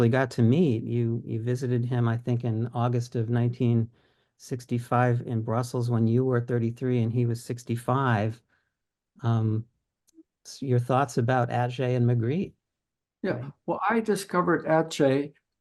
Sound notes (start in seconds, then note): none